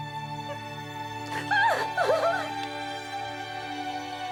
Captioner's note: crying; gentle music